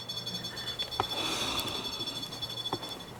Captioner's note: sigh